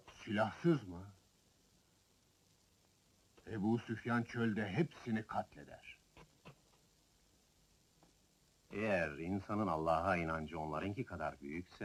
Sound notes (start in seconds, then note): none